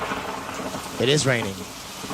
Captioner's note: rain pours